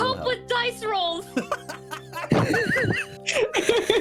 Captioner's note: laughter